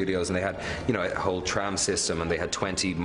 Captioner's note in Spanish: hablando en inglés